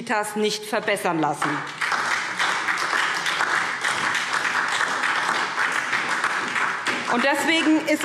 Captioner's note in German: Beifall SPD und DIE LINKE